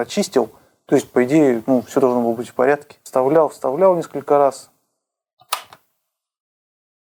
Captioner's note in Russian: щёлк